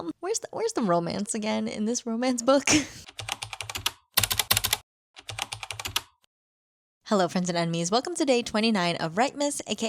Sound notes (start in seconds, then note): 3.1 typing